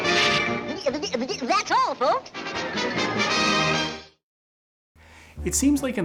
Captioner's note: upbeat music; stammers